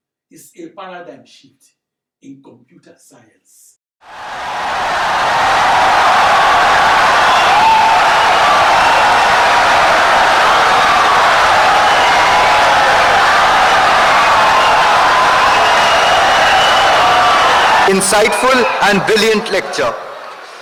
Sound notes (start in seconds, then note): 5.1 wild applause and cheering for 17 seconds